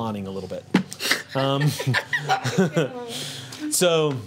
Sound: group laughs

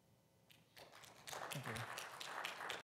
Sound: audience applauding

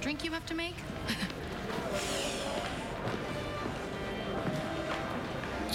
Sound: chuckles; breathes sharply

